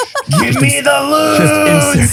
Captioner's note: laughing